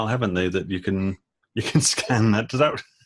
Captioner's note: laughing